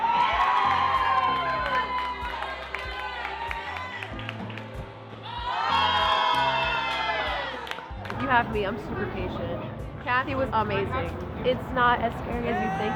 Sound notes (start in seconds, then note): 0.0 audience cheering and applauding; 5.2 audience cheering